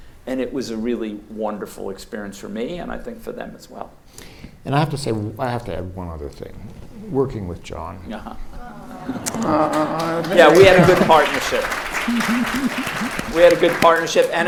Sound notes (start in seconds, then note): 8.5 audience awws; 11.6 audience claps